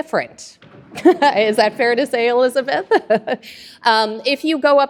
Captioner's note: laughs